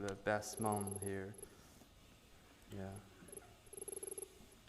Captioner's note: text beeping